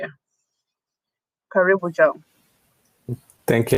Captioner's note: speaking swahili